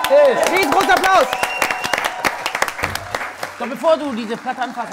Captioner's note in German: Jubel, Applaus